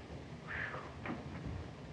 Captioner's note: sighs in relief